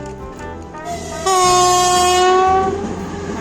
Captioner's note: whistles